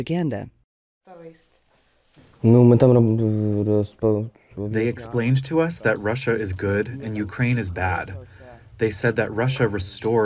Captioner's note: through translator